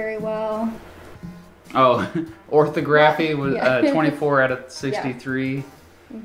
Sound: laughs

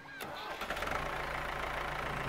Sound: motor whirring

